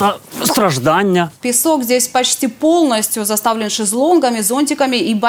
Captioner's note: spoken in Russian